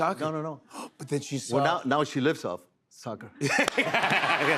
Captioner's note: gasps; laughter